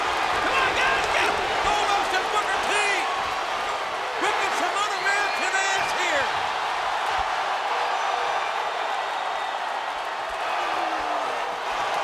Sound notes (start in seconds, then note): 7.2 audience cheering